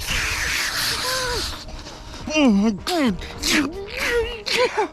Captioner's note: grunts excitedly